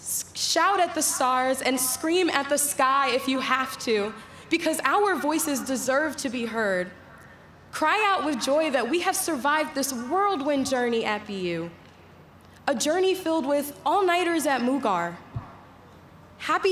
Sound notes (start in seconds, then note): none